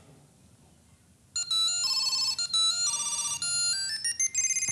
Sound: ringing

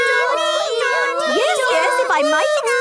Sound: children imitating sirens

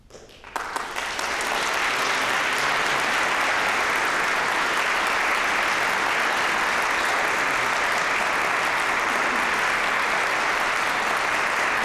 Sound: applause

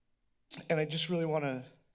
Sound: tongue clicks

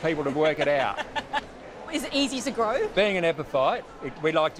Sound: laughs

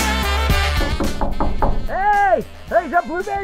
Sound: knocking

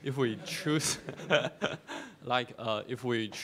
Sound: class laughing; laughing

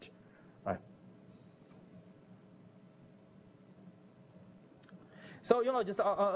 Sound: pause

